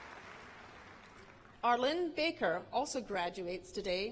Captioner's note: cheers and applause